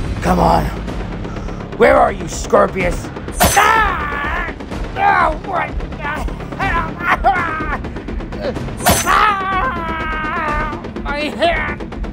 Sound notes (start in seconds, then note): 3.4 ax slicing; 3.4 Miller groaning; 8.8 ax slicing